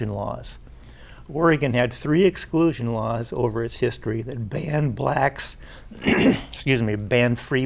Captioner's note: clears his throat